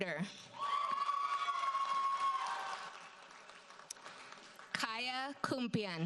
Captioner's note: audience cheers and applauds